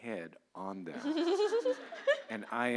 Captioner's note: laughter